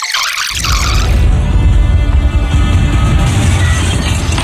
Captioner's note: sci-fi travel sounds; glass breaking